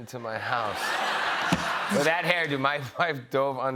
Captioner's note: laughter